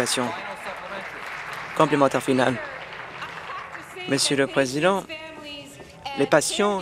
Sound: applause

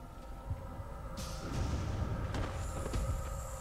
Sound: loud boom

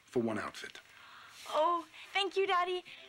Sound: none

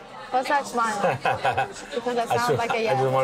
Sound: laughs

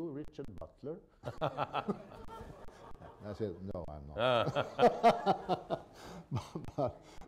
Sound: laughter

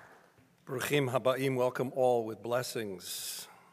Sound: speaking in foreign language

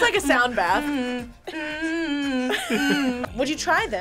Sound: hums; both laugh

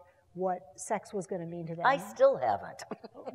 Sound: laugh

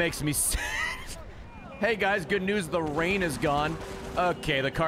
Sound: laughs

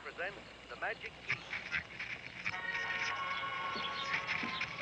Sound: static on radio

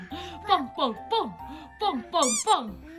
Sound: horn

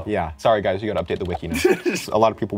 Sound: chuckles

